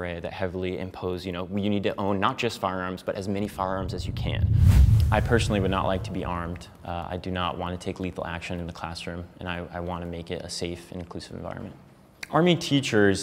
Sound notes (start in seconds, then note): 3.4 air whooshing loudly